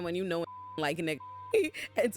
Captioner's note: beep